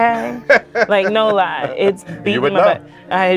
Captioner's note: laughs